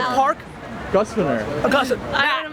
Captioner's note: voiceover